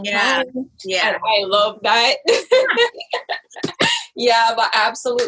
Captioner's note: laughs